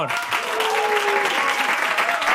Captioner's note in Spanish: Aplausos